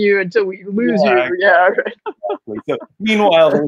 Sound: laughing

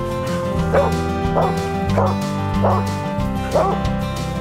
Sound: upbeat music; dog barking

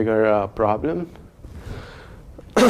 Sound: cough

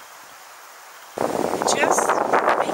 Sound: wind noise

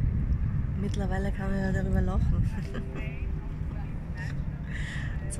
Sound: giggling

